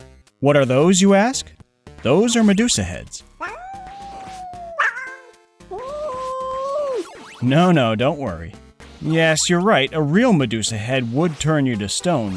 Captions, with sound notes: What are those, you ask? Those are Medusa heads. (Terrified yowls) (Yowl) No, no! Don't worry. Yes, you're right; a real Medusa head would turn you to stone